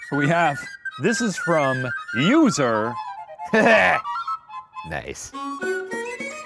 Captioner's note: laughs; upbeat music